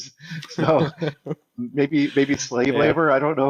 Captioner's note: hosts laugh